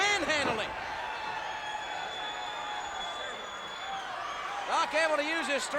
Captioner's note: audience cheers